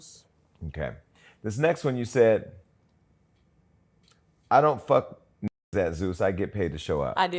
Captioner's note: muted